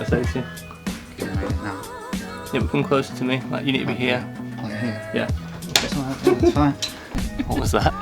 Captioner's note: laughter